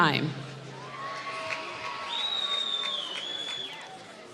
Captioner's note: applause